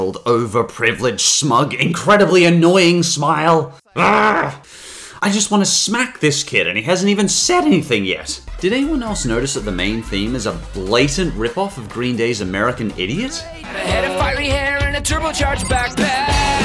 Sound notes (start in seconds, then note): 4.0 Strider growls